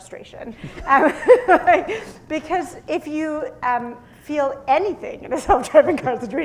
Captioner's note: laughter